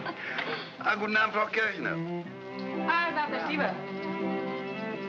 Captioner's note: all laugh; speaking in foreign language